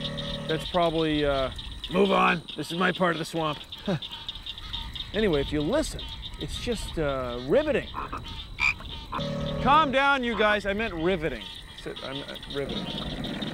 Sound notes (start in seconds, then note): 7.7 frogs croaking, chirping